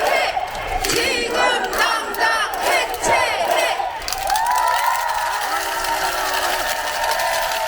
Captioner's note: applause